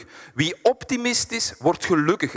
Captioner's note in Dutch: none